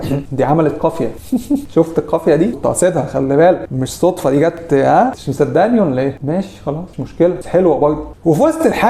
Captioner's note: in Arabic